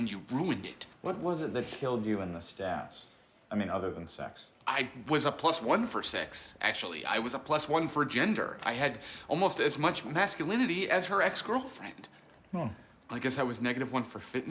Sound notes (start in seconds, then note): none